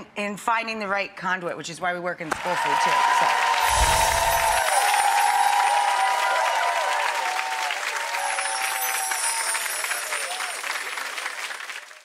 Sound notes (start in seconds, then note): 2.3 audience applauding; 2.9 bell chimes